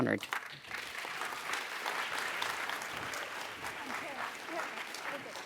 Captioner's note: audience applauds